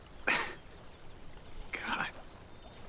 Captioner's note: Kent chuckling